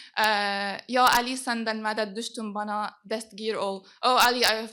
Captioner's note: non-english speech